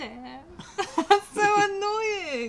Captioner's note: laughter